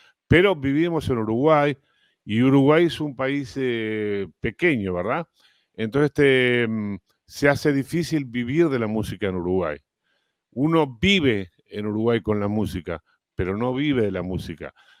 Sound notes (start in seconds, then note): none